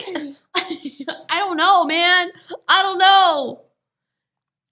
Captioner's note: laughs